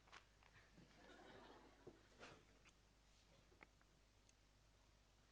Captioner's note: audience laughing